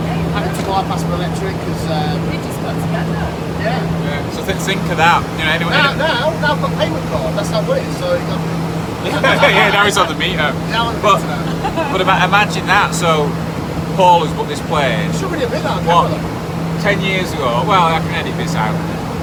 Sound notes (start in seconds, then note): 8.8 group laughs; 9.0 mumbles; 11.1 laughs